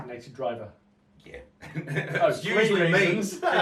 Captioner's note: chuckles